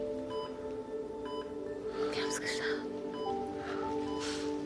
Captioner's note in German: flüsternd